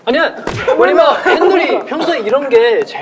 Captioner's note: laughing